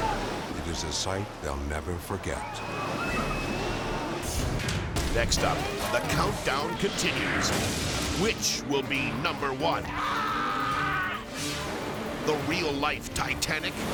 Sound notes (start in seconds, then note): 4.1 dramatic music; 9.7 yelling